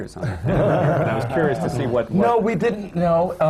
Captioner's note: laughter